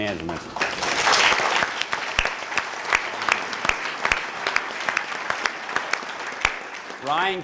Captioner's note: applause